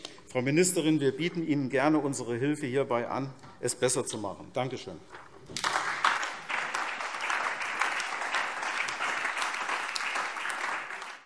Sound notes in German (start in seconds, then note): 5.5 Beifall SPD und vereinzelt DIE LINKE